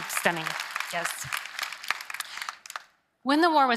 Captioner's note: applause